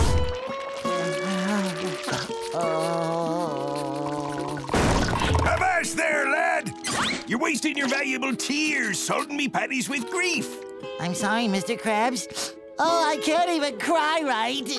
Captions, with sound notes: [crying] Oh. Avast there, lad. You're wasting your valuable tears salting me patties with grief. I'm sorry, Mr. Krabs. Oh, I can't even cry right.